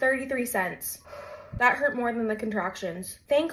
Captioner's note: sigh